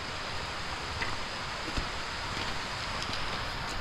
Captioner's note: sound of rain and wind